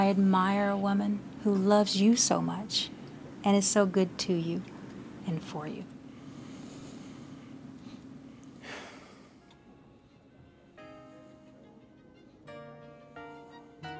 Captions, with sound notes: I admire a woman who loves you so much, and is so good to you, and for you. (sighs) (soul music)